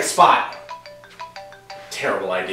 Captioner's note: phone rings